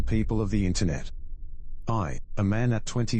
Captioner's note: electrical noise